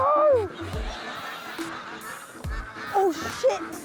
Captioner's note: ducks quacking